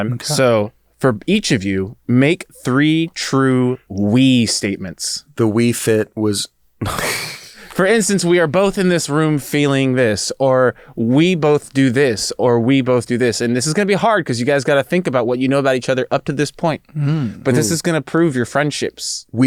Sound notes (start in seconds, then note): 6.8 both chuckle